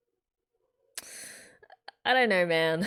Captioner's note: inhales